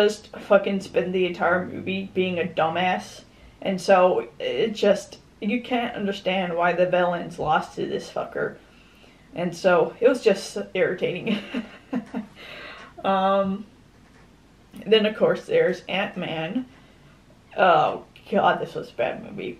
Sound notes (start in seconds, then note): 11.3 laughs